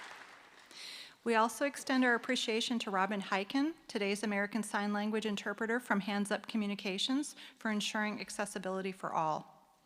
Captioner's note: applause